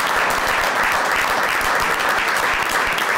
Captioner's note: applause